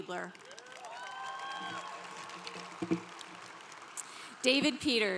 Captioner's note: congregation cheering